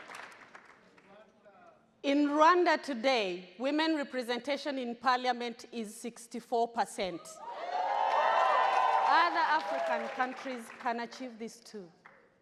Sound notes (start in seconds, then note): 7.4 audience cheers